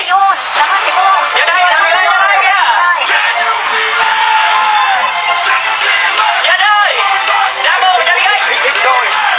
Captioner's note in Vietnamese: Vỗ tay